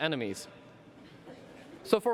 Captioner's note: laughter